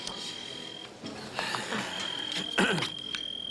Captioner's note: phone rings